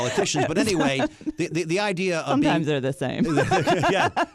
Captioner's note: laughs